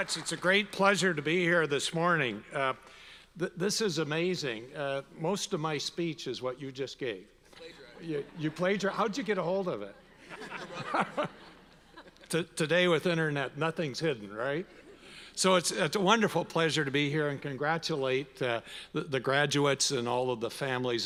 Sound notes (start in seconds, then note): 10.2 all laugh